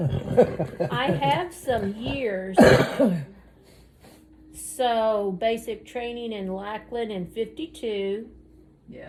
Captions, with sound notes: I have some years-- (coughs) So, basic training in Lackland in '52. Yeah.